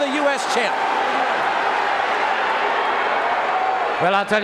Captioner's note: audience cheering